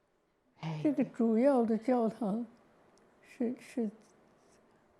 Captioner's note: Mandarin